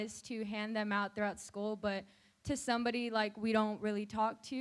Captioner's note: none